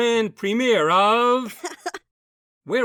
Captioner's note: bow laughs